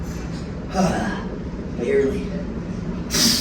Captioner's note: exhales